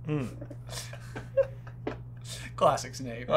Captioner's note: laughter